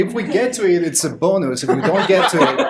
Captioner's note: laughter